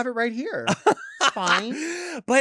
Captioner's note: laughs